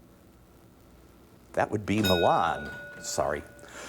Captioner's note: ding